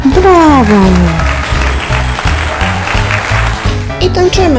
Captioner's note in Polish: oklaski